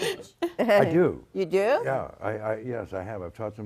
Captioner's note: all laughing